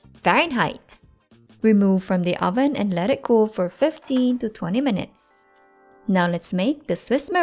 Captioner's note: pan thuds